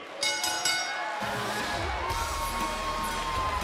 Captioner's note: bell